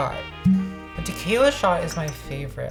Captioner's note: cork popping